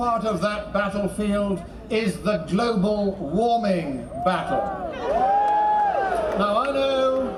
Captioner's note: cheering, then booing